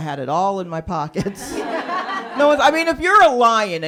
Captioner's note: laughter